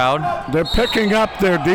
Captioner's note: whistle blows